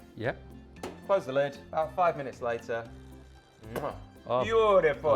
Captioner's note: kisses